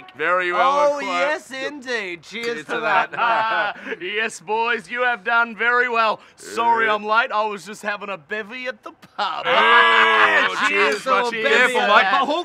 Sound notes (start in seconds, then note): 9.4 all cheer